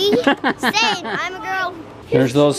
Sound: laughing

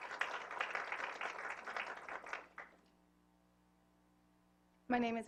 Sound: applause

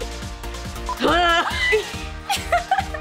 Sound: groaning

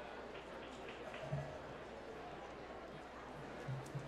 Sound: applause

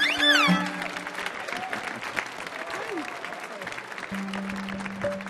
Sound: audience applauding

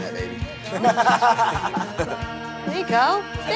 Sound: laughs

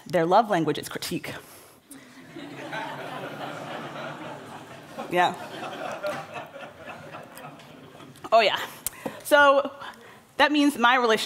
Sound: laughter

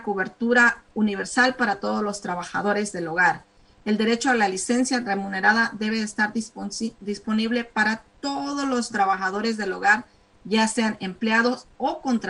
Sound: speaking spanish

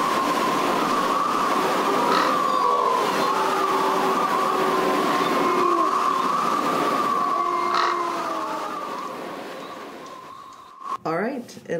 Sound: wind blowing

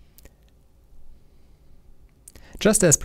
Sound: confused silence

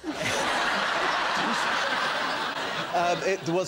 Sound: laughter

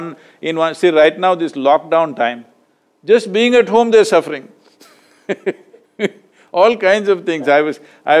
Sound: laughs

